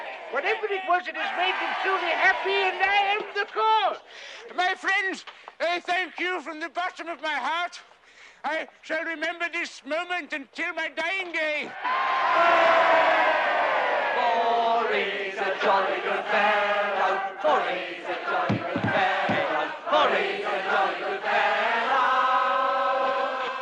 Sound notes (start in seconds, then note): 12.1 crowd cheers; 14.2 singing